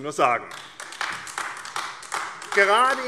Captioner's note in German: Beifall AfD